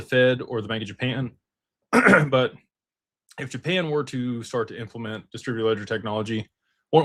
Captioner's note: clears throat